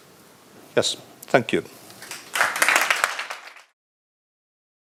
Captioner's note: applause